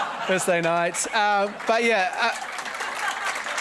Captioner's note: audience laughing; audience clapping